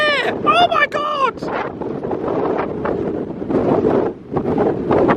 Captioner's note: wind blowing hard